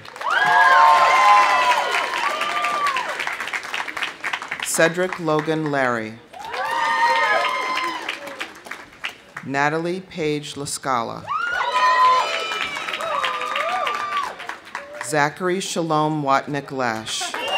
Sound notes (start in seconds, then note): 0.0 audience cheering; 0.0 audience applauding; 6.3 audience cheering; 11.3 audience cheering; 11.3 audience applauding